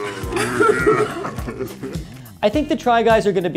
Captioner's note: laughing